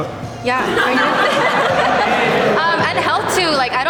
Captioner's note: group laughs